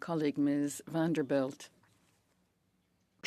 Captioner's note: speaking French